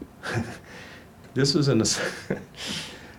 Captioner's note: laughing